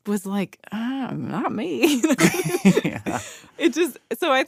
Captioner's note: laughs